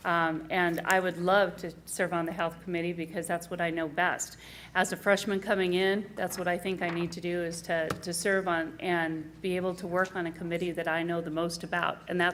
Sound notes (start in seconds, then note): none